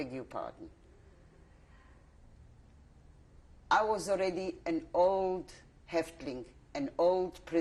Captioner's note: pauses for 3 seconds